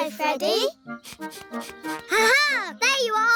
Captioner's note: sniffs